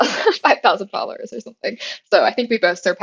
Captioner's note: laugh